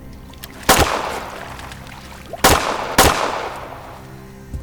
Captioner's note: gun blasting